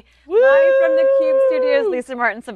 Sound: cheers

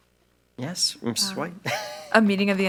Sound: laughs

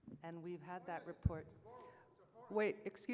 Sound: voiceover

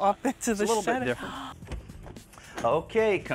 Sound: gasps

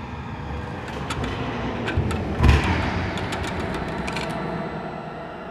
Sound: discordant music; panels clanking

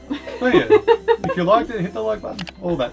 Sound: laughs

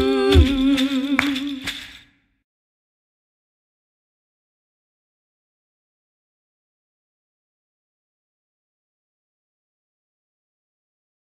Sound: clap

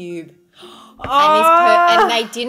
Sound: groans

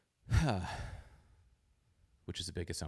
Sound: exhales

